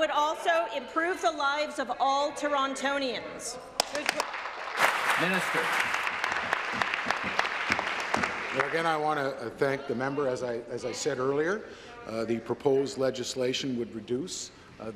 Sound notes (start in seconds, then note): 6.7 applause